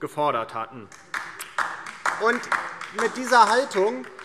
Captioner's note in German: Beifall DIE LINKE